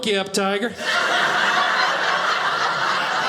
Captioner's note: audience laughing